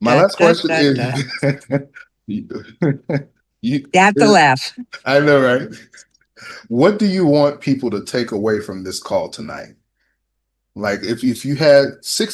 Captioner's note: laughter